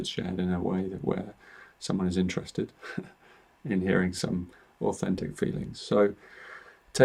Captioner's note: chuckles